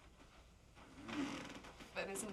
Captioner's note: bed creaking